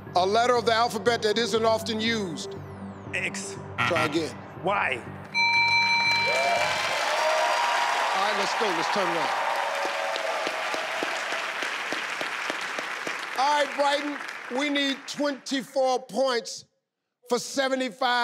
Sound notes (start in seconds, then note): 3.7 buzzer beeps; 5.3 bell rings; 6.6 audience applause; 10.3 clapping